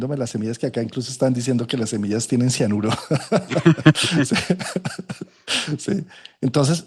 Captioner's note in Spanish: risas